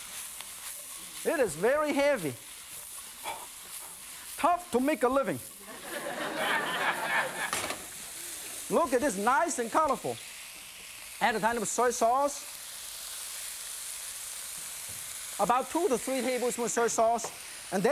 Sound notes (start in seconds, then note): 5.6 audience laughing